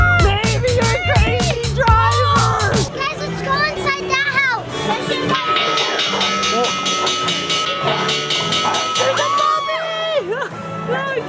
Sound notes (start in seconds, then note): 5.2 bell ringing